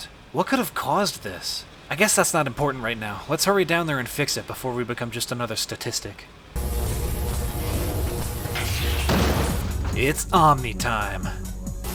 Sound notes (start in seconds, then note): 6.5 omnicutter buzzing; 7.3 clang